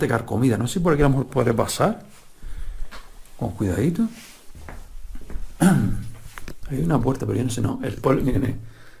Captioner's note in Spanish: carraspeo